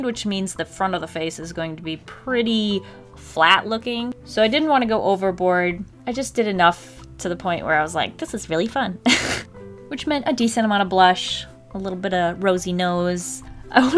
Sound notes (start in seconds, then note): 9.1 laughs